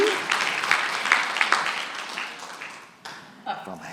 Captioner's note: applause